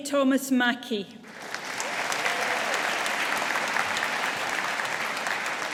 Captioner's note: audience applauding